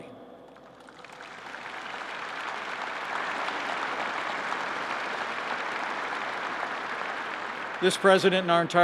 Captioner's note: applause